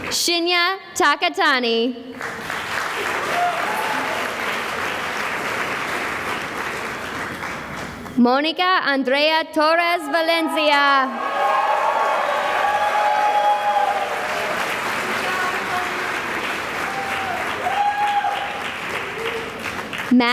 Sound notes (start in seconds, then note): 2.1 applause